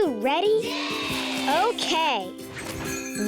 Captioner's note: children cheering